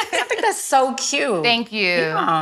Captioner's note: ladies laugh